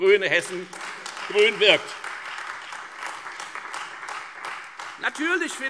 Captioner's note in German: Beifall Freie Demokraten und AfD - BÜNDNIS 90/DIE GRÜNEN: Oh, oh, oh!